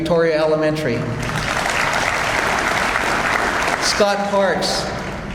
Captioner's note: audience applauds